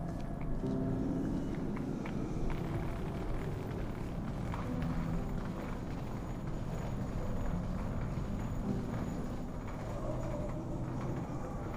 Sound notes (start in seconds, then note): none